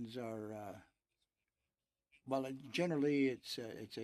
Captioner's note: speaking in french